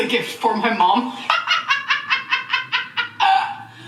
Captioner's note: laughing